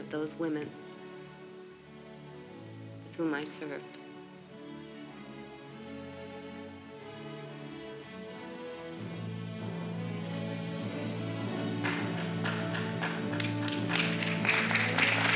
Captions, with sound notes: of those women with whom I served. (soft uplifting music) (applause)